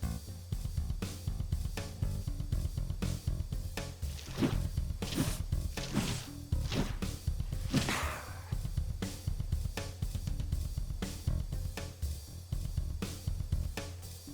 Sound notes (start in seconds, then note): 4.1 whooshing; 7.6 snarls